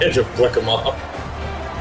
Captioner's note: laugh